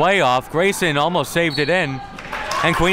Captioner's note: whistle blows